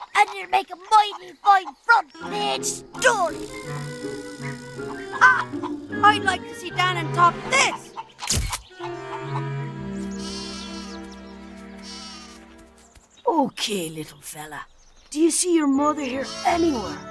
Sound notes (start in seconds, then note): 8.0 camera clicks